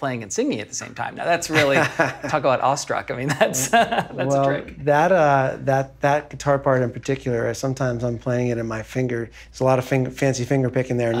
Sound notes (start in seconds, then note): 3.4 laughing